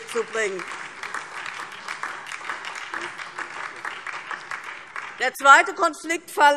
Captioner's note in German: Beifall DIE LINKE und SPD